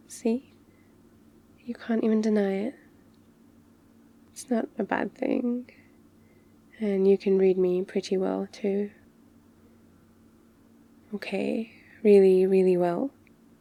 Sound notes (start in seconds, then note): none